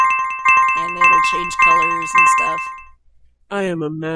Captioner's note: annoying jingley sound effects